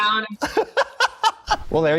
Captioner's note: laughs